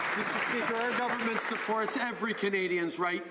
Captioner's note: some Applause